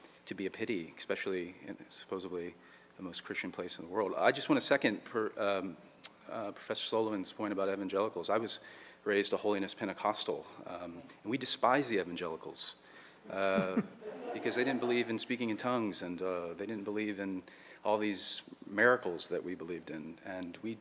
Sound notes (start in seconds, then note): 13.4 audience laughs